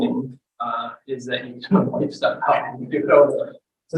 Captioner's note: audio breaks